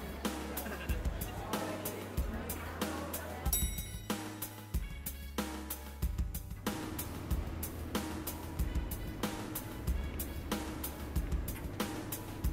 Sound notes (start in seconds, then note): 3.5 elevator bell rings